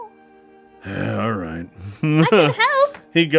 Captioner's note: sighs